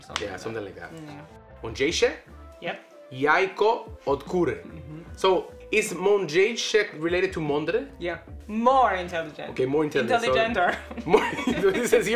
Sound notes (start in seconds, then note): 0.0 speaks Polish; 1.8 speaks Polish; 10.8 laughs